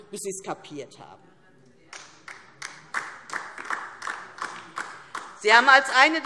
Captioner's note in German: Beifall DIE LINKE